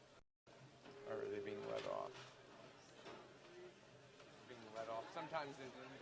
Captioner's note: chatter